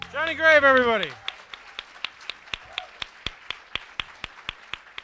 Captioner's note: audience applauding